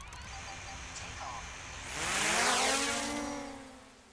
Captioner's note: drone blades whir